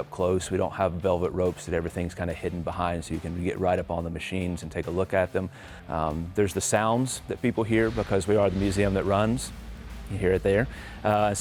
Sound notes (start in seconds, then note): 7.8 motorcycle revving